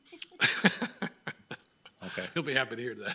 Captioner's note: member laughing